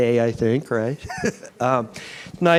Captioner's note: laugh